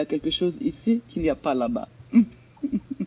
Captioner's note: speaks in French